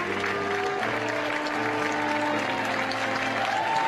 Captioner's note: applause